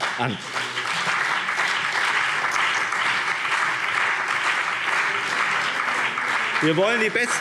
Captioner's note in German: Beifall BÜNDNIS 90/DIE GRÜNEN und CDU